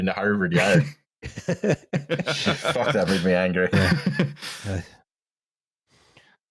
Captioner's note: laughter